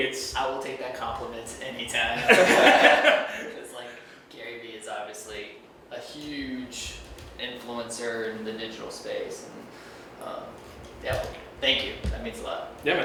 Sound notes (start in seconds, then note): 2.1 laughs